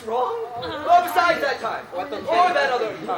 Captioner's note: everyone starts talking